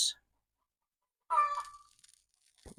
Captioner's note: chicken cluck